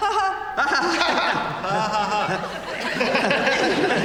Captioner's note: laughter